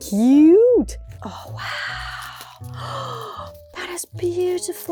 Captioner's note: gasp